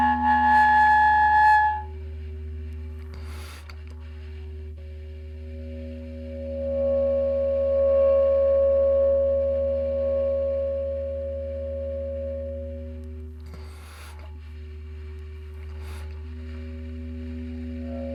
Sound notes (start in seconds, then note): 0.0 eerie music; 3.6 character inhaling softly; 7.1 eerie music; 13.3 character inhaling softly